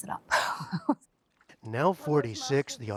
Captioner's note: laughter